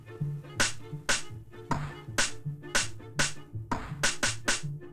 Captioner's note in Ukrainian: стукіт молотка